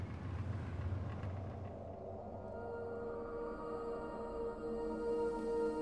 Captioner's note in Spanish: viento aullando suavemente